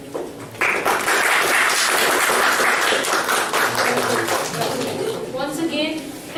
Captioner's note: clapping